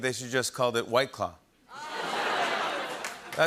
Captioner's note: laughter and applause